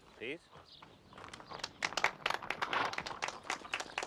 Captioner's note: Tepuk tangan